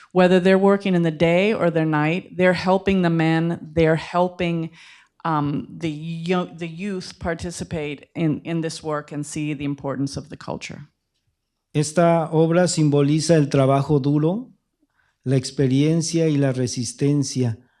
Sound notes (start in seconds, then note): 13.3 speaking spanish